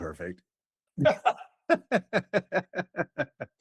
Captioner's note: laughing